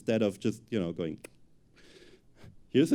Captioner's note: click